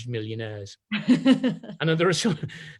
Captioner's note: laughs